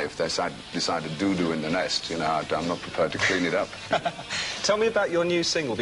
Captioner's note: laughs